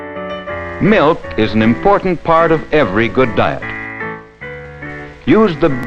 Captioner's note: voiceover